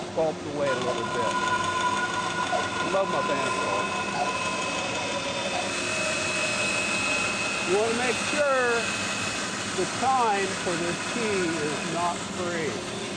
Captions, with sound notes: and sculpt away a little bit. (saw whirring) I love my bandsaw. (saw whirring) You want to make sure the pine for this key is knot free.